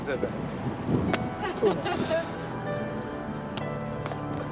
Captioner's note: woman laughing; dramatic music